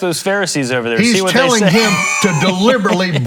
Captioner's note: laughs